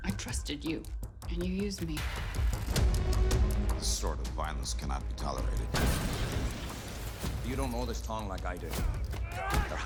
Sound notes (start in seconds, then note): 5.8 explosion roars